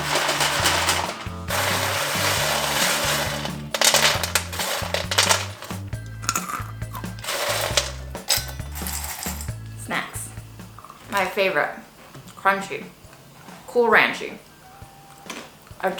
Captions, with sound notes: (clacking sounds) (crunching sound) Snacks, my favorite. Crunchy. Cool ranchy.